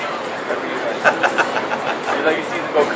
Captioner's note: laughs